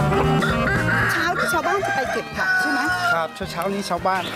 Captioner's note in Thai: เสียงไก่ขัน